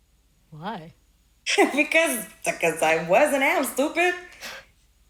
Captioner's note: laughs